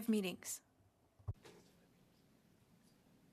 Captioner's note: speaking French